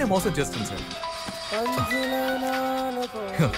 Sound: phone rings

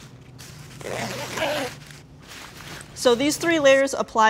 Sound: fabric rustling; zipper screech

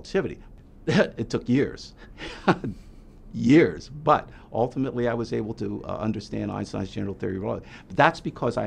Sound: laughs

